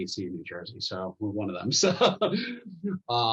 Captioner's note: laughter